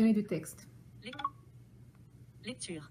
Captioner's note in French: le téléphone carillonne